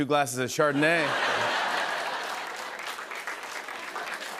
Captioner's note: laughter and applause